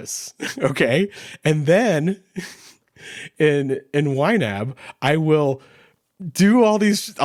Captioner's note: chuckles